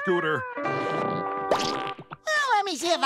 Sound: popping

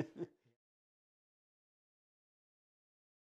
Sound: laughter

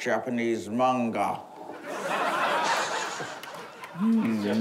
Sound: laughter

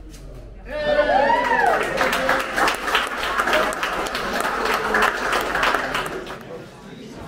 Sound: applause

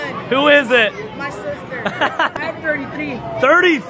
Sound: laughs

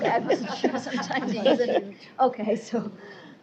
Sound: laughter

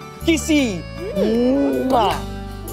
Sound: kissing

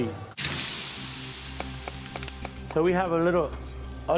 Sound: sizzle

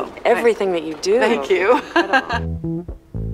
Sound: laughs

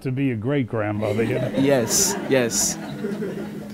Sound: laughing

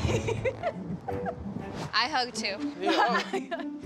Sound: laughs

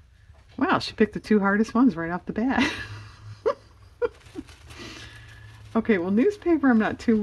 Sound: laughs

